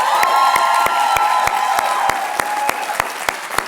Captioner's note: cheering, applause